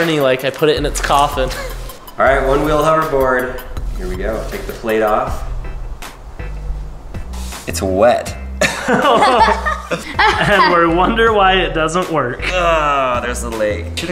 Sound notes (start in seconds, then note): 8.6 laughing